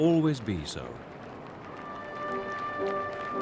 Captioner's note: applauding